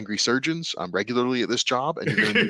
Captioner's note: laughs